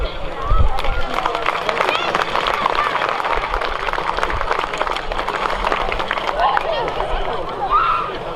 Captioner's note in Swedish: Applåder